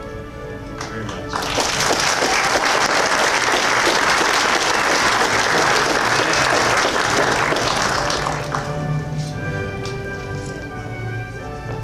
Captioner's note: applause